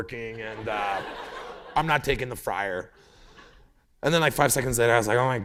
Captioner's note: laughter